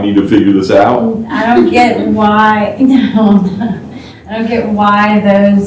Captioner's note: laughter; laughter